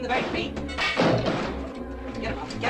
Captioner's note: bang